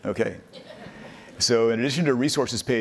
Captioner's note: people laughing